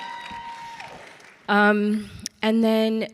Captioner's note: people cheering